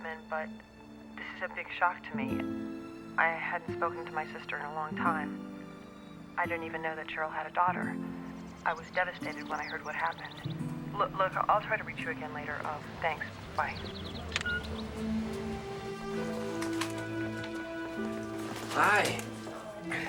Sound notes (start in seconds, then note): 14.2 machine beeps